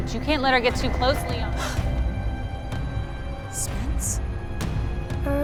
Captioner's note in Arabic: تشهق رايتشل